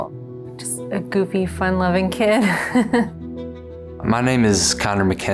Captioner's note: laughs